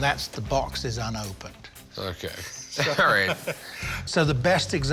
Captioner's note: laughs